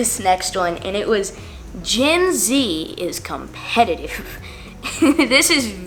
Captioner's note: laughs